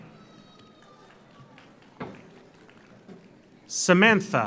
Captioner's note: audience applauds